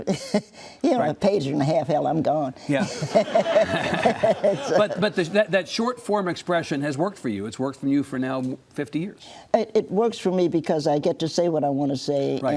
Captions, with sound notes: you know a page and a half, hell I'm gone. (audience laughs) - But that short form expression has worked for you. It's worked for you now for 50 years. - It works for me because I get to say what I want to say